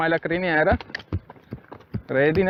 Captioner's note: cluck